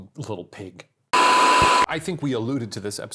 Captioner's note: static hissing